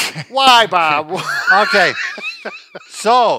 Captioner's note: laughing